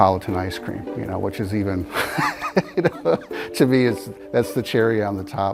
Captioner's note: laughing